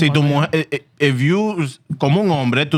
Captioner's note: speaking Spanish